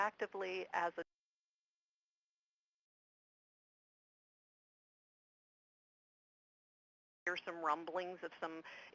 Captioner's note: audio cuts out